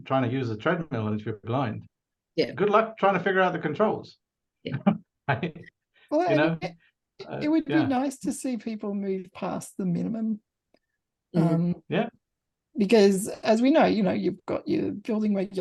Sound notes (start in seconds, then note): 5.3 laughs